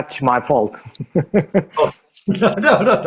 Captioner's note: both laughs